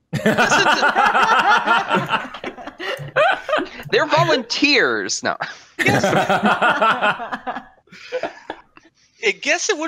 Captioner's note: laughter; more laughter